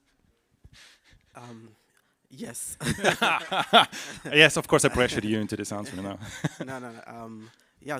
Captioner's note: laughs